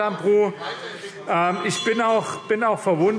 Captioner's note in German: Zurufe AfD - Glockenzeichen